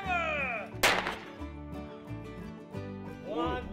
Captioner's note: gunshots